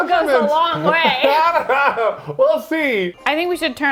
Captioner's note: laughs